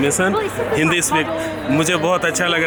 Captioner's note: speaks foreign language